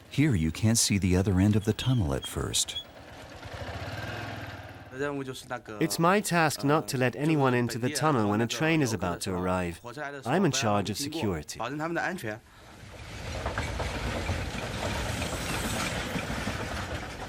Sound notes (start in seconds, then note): 4.9 speaking in foreign language; 12.8 train engine revving